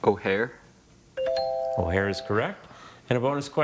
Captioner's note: scoreboard dings; buzzer chimes